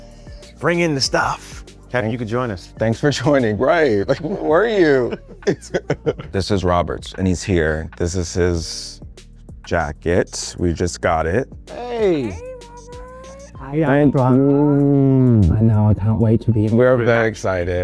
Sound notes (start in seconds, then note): 3.8 laugh